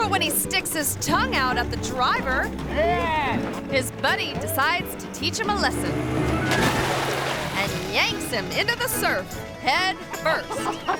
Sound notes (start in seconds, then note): 5.9 water splashing; 10.0 friends laughing